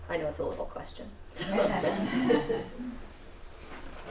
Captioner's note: laughter